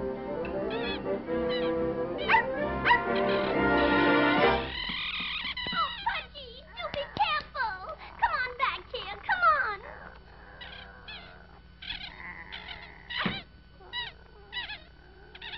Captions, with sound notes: (Bark, Bark) Oh, Pudgy you be careful! Come on back here. C'Mon!